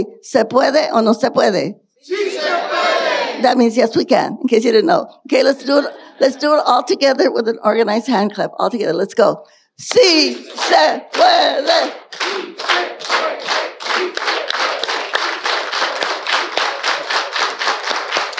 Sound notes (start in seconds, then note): 11.8 clapping; 13.7 audience chanting